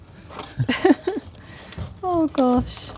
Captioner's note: laughter